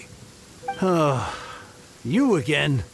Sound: sigh

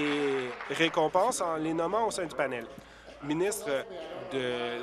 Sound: applause

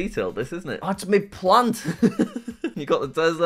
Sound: laughs

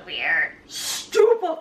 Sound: laughing; Dumbledore impression

